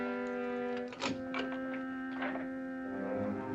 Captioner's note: door unlocking & opening